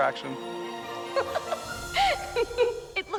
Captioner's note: laughs